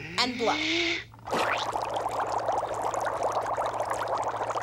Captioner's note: water bubbling